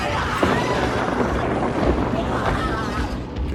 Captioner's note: anguished shrieks of fury